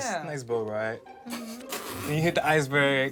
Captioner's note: laughing